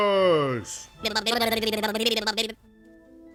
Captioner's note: octopus sounds